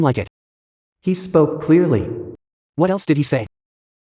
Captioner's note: he spoke clearly